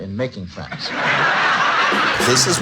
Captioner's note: laughing